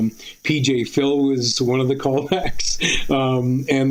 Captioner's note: laughs